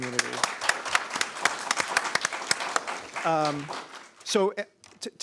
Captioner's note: attendees and panelists applauding